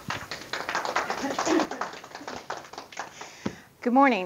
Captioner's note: audience applause